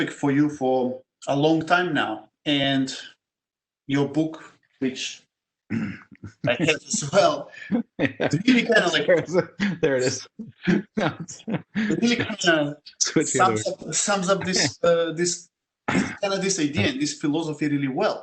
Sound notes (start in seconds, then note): 5.7 laugh